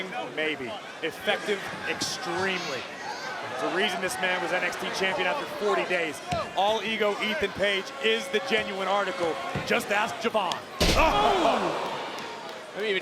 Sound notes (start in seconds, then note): 10.8 body thudding; 11.1 audience gasping